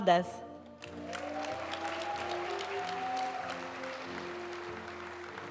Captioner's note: audience cheering and applauding; graduation music